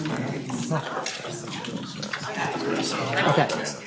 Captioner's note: audience chattering